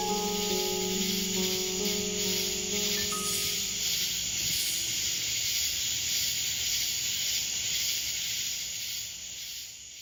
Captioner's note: crickets